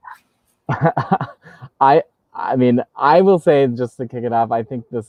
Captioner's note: laughing